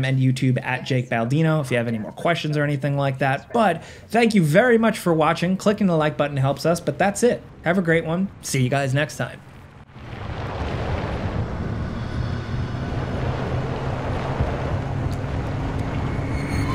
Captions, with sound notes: and YouTube @JakeBaldino if you have any more questions or anything like that. But thank you very much for watching. Clicking the like button helps us, but that's it. Have a great one. See you guys next time. (eerie music) (car engine running)